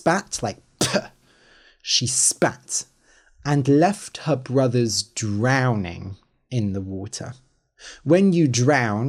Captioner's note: spits